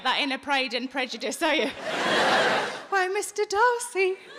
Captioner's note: audience laughing